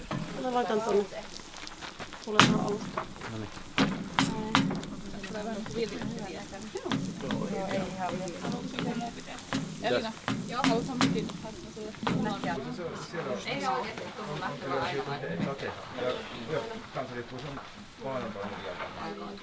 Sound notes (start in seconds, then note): 4.0 chatter about baking the breads